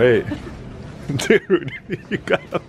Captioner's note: laughs